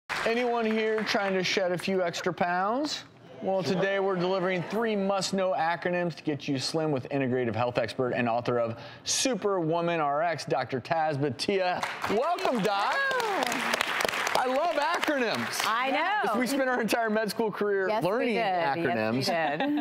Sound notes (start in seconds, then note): 11.7 applause